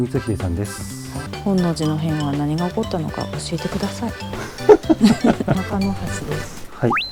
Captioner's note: laughs